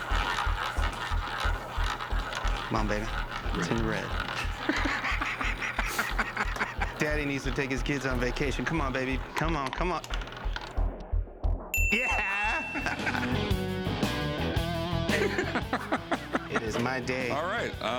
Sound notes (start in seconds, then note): 4.2 laughs; 11.7 bell dings; 15.0 laughs